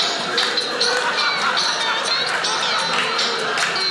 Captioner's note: tape slows